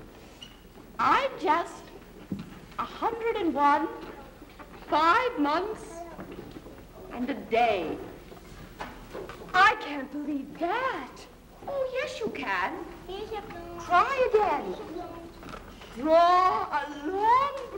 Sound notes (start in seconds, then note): none